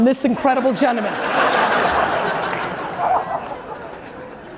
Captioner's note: audience laughing